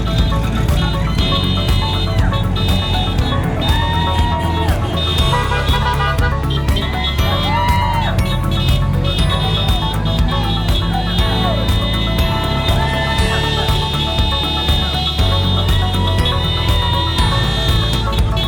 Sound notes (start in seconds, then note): 4.6 horns honking; 11.6 crowd cheering